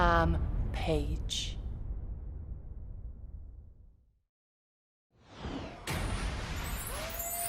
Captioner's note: crowd cheering